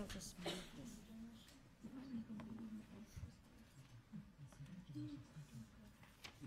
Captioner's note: people chattering faintly